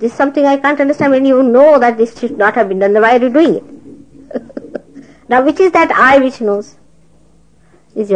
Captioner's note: laughing